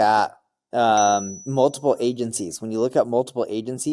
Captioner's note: bell chimes